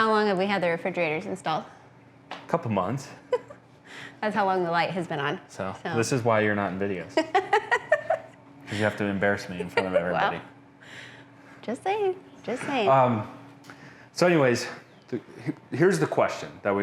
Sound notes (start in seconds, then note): 7.2 laughing